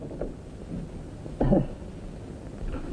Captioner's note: cough